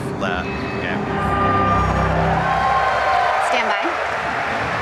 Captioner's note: audience Cheering